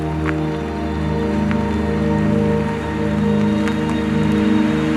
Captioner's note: car driving